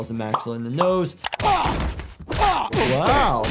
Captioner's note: Brian groans